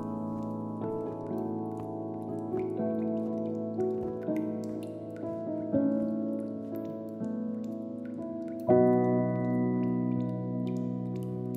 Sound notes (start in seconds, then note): 0.0 light synth music; 3.9 water dripping